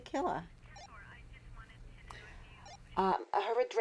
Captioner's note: radio bleeps